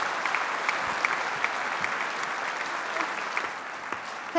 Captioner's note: applause